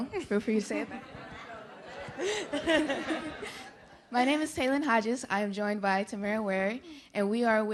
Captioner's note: laughs